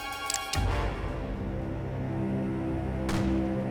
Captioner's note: gun cocks